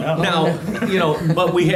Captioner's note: everyone laughs